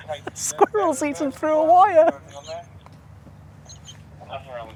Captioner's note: laughing